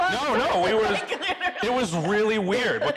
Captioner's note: laughing